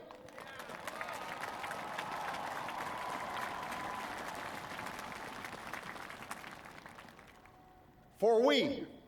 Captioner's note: applause